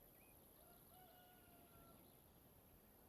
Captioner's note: rooster crowing